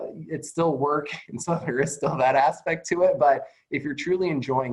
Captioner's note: chuckles